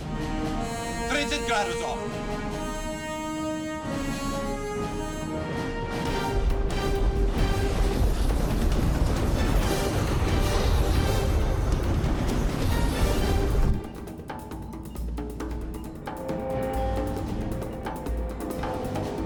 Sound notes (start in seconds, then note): 7.8 gunshot; 9.3 drum